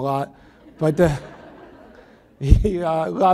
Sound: audience laughs

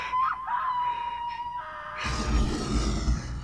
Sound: panting, screams and music fade out; growling

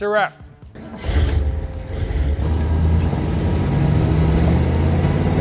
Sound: engine starts, roars

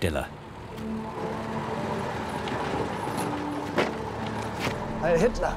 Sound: men whistle; dramatic music

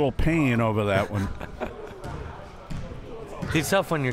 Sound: laughing

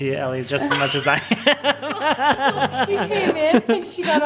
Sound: laughing

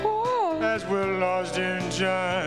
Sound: exclaims

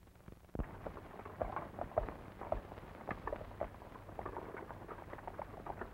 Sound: horse hooves clomping

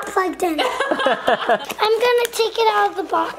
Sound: parents laughing

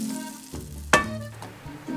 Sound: clang

